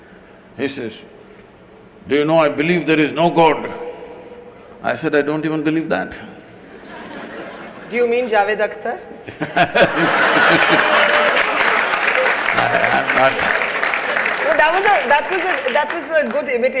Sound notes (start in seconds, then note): 6.4 laughter; 9.5 laughter/Applause